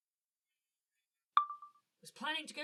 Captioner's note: chime of a phone recorder turning on